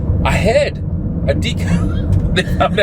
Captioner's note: laughing